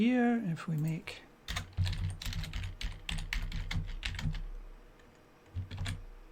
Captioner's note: typing